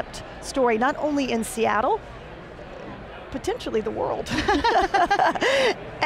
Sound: laughs

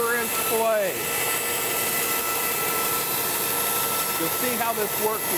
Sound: bandsaw whirring

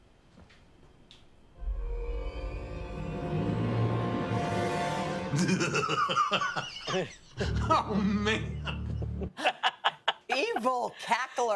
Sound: laughter

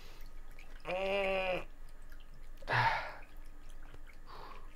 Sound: groaning

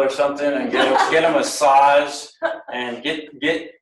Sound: laughs

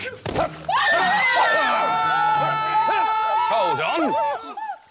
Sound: screaming!

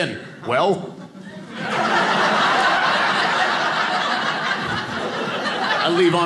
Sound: audience laughing

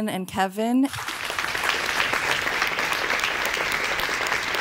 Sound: audience clapping

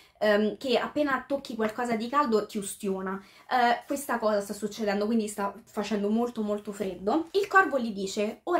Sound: translating in italian

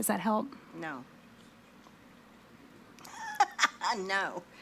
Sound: laughs

